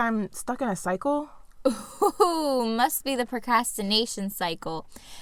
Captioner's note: laughter